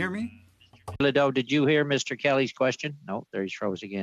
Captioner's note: speaking French